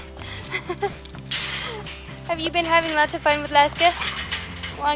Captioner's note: laughter